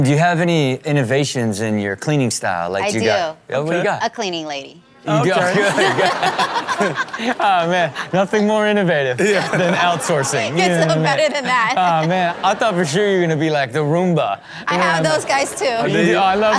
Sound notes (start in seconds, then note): 5.4 everyone laughs; 9.1 laughs